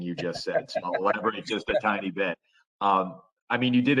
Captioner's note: laughter